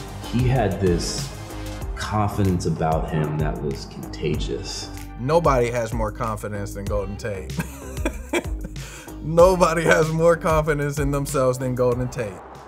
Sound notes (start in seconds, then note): 7.5 laughs